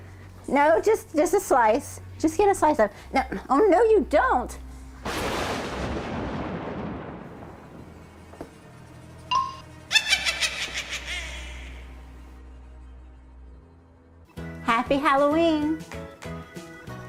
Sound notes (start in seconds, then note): 5.0 thunder; 9.8 witch's laugh